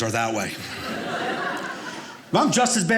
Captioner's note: audience laughing